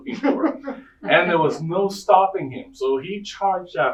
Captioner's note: audience laughing